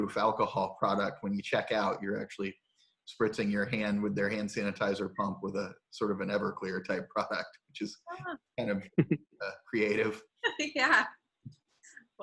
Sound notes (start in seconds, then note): 8.9 laughs